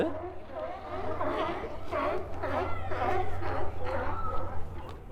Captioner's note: sea lion choir